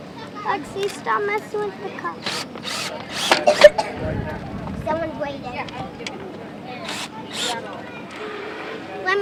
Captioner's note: drilling sounds